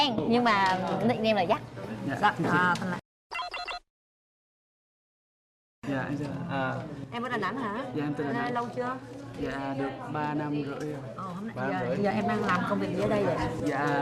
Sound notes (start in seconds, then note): none